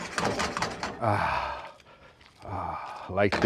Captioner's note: sighs